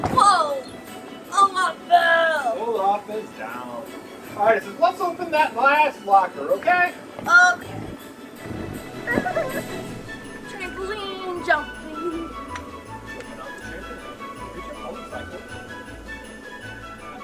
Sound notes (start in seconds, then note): 0.0 bounce house thudding; 8.8 mimics squeaking